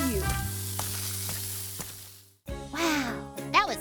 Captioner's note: splashing